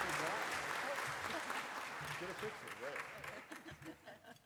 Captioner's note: applause